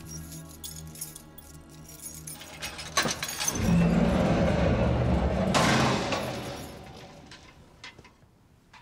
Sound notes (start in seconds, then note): 2.4 door opens; 2.9 lock clicks